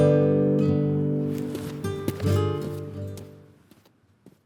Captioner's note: footsteps fading out